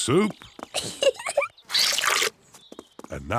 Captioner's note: giggles